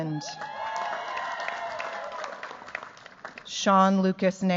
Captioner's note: cheers, applause